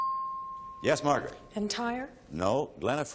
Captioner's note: ping